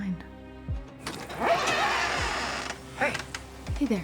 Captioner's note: door creaking